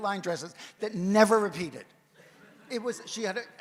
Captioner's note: audience chuckles